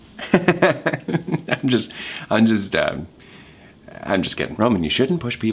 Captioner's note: laughing